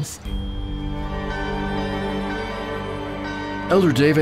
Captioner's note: bells tolling